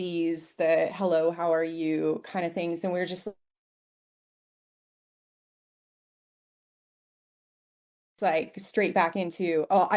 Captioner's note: audio cuts out